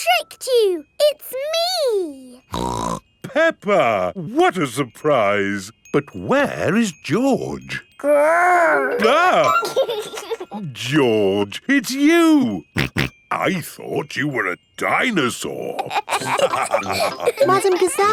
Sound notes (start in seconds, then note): 2.5 snorts; 8.6 giggles; 9.7 exclaims; 12.7 snorting; 15.8 all laughing